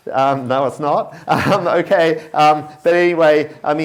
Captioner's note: chuckles